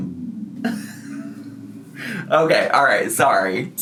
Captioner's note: laughs